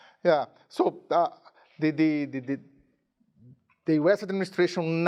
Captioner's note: none